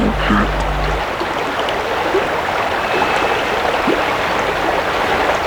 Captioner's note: running water continues